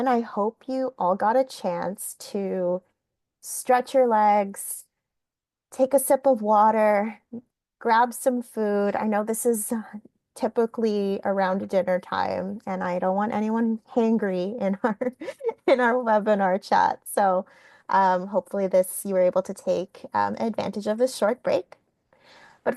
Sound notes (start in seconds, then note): 15.2 laughing